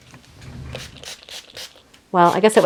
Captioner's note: water spritzing